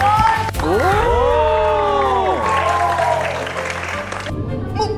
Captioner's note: cheering crowd